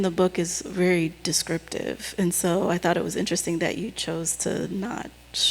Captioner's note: none